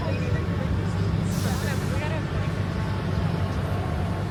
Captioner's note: riders chatting; air hissing